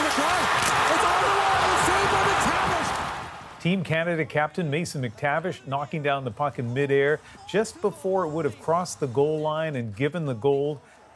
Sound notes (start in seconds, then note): 6.1 crowd noise